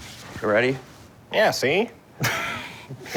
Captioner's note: laughs